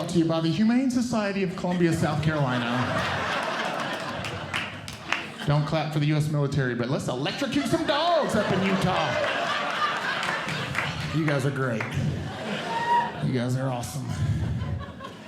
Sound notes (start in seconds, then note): 1.6 audience Laughing; 9.3 audience Laughing